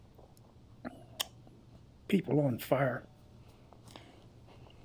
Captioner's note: grunts, clicks tongue